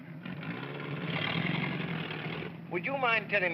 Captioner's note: car rumbles away